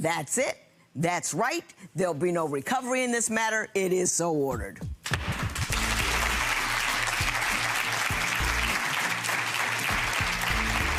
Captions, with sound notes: That's it, that's right. There'll be no recovery in this matter. It is so ordered. (gavel slams) (clapping)